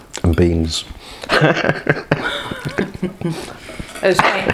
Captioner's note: giggle